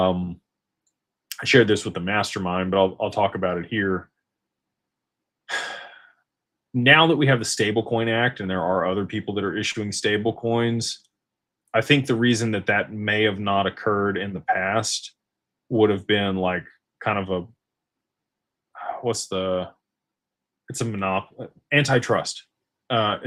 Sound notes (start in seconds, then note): 5.5 sighs and gasps